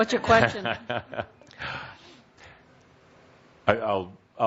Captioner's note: chuckles